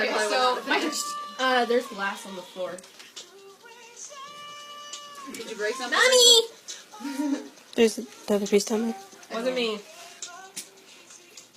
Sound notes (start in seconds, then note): 5.7 child-like voice